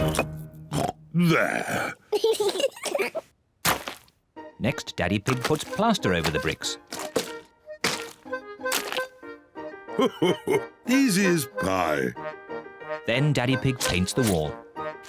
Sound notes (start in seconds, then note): 0.7 oinks; 2.1 both laugh